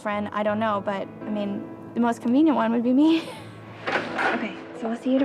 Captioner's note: laughs